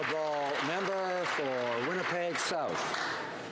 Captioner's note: some Applause